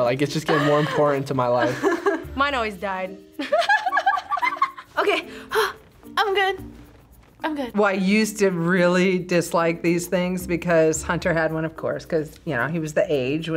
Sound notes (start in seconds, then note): 3.4 laughs